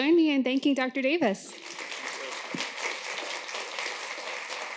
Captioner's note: applause